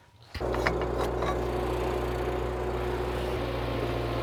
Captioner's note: machine running